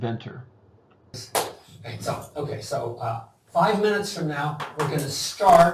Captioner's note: claps